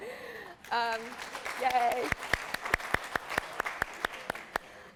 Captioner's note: applause